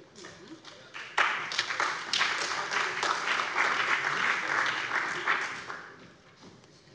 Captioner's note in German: Beifall bei dem BÜNDNIS 90/DIE GRÜNEN und der CDU